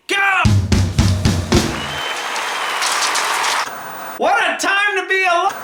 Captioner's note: audience cheering; upbeat music